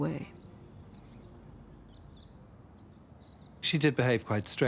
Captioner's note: birds chirping